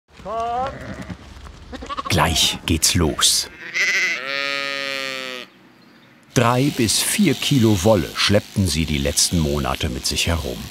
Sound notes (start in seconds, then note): 3.4 bleating